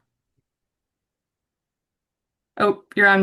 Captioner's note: silence